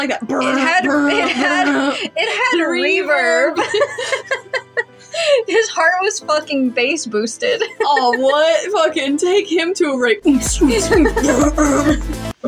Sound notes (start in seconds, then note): 0.4 chuckle; 3.5 both Laugh; 7.5 laugh; 10.2 electronic Music; 10.4 laugh; 11.0 Jæmis Vocalizes